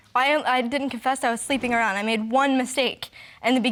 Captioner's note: voice shaking